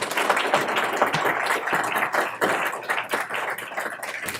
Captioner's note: applause